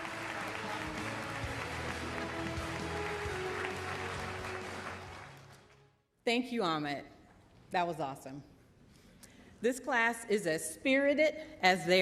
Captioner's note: applause